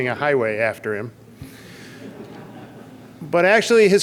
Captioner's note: audience laughs